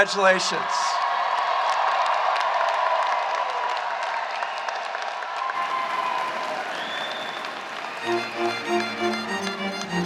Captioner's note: applause